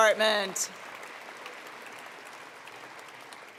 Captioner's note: applause